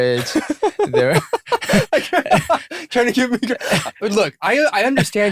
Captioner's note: laughter